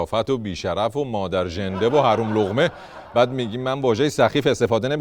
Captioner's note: laughter